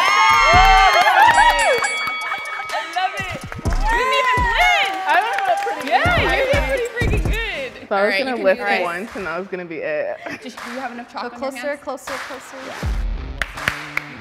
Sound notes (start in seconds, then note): 0.0 excited cheering; 5.4 excited chatter; 12.4 energetic music